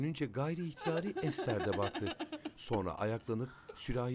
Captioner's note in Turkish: Ağlama sesi